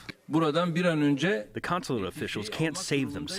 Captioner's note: through translator